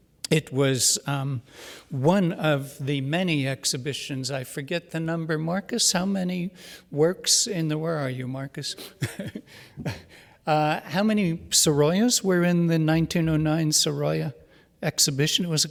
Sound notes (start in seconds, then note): 8.8 chuckles